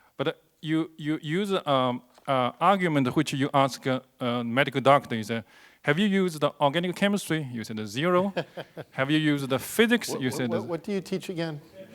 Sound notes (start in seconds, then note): 8.2 laughs